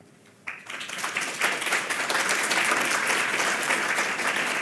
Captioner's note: audience applauding